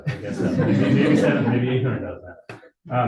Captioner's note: audience laughing